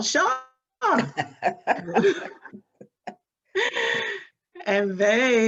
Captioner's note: both laughing